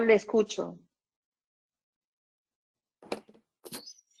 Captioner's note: silence